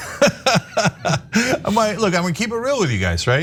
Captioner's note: laugh